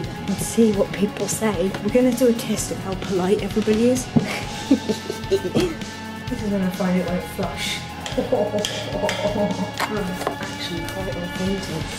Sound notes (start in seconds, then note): 4.2 laughs